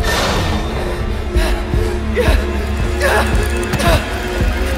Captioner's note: panicked whimpering